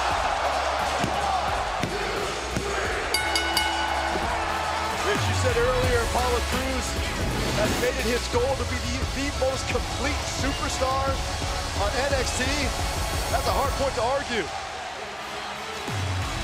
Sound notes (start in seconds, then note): 0.2 crowd cheering; 3.1 bell ringing